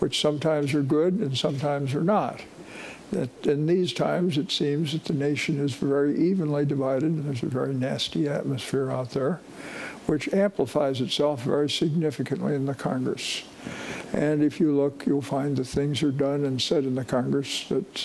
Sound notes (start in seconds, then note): none